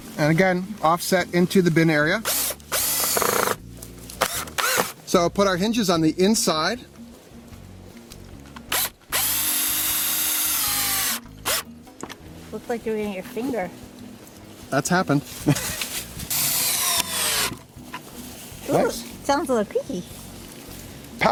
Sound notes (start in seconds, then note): 2.2 drilling; 9.0 drilling; 16.2 drilling